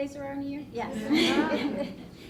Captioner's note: laughter